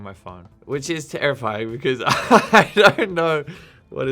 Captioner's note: laughing